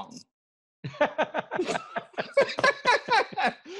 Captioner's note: laughing